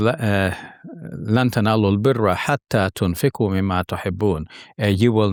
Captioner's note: speaking in foreign language